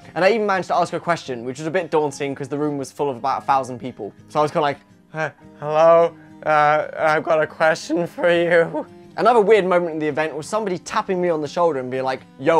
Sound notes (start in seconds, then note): 5.1 nasally